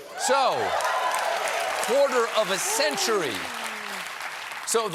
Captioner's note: applause